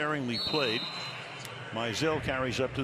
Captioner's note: whistle